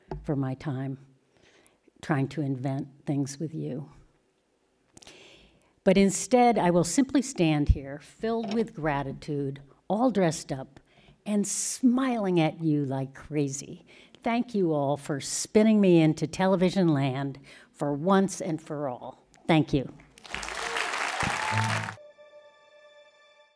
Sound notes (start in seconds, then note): 20.0 applause